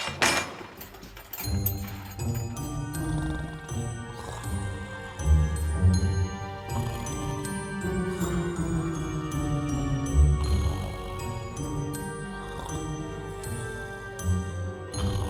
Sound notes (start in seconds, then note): 0.0 iron clanks; 2.1 Murphy snoring; 2.1 curious music; 5.6 curious music continues